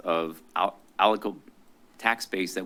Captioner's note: stuttering